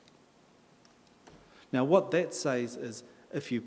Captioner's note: in English